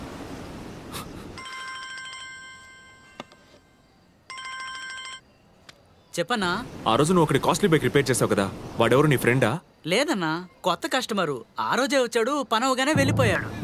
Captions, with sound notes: [Cell phone rings] Yes, sir. You repaired an expensive bike that day, remember? Is he your friend? No. He was a new customer. He came to me that day and left after his work was done.